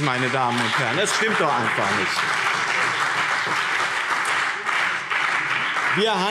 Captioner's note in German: Beifall BÜNDNIS 90/DIE GRÜNEN und CDU